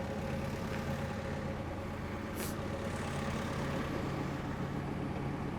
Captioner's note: forklift engine rumbling